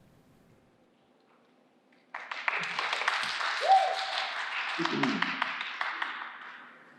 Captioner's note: applause